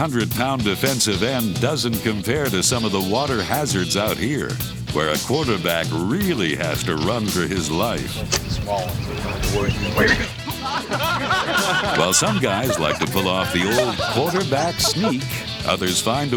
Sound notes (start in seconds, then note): 9.9 men laughing